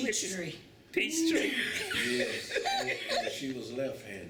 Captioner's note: laughter